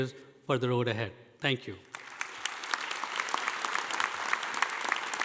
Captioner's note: audience applauding